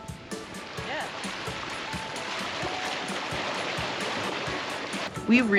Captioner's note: water splashing